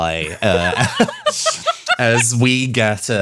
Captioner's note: laughs